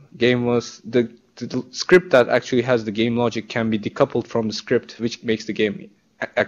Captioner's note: none